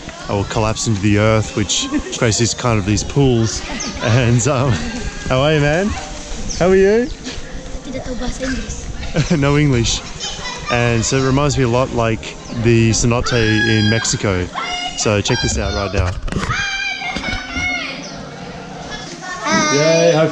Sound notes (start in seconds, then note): 7.9 speaking in foreign language; 16.4 children yelling